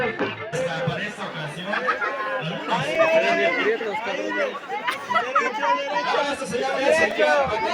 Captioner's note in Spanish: ruidos y risas de estudiantes